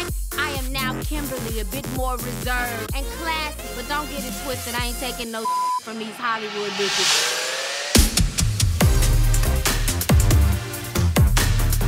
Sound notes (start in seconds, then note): 5.4 beep sound; 8.0 upbeat music